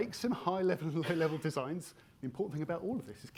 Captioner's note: attendee coughing